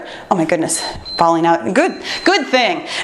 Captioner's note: timer beeps